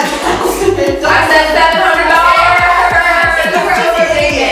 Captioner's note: shouting